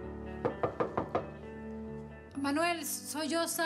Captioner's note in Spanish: toques en la puerta